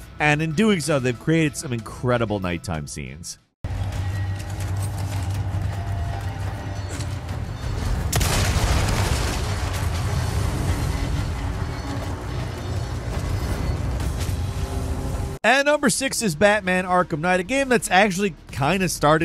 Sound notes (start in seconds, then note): 4.1 tense music; 7.8 explosion booms